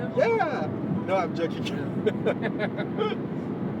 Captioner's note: laughing